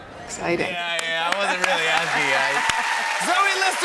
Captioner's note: cheers and applause